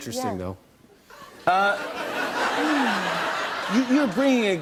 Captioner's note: laughter